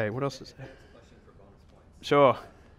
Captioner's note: voiceover